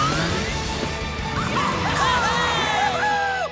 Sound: cheering

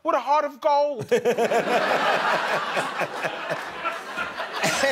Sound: laughter

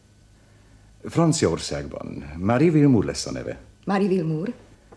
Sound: none

